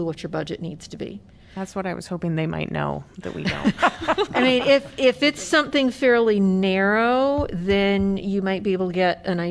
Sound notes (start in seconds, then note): 3.2 laughter